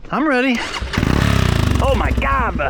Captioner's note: laughing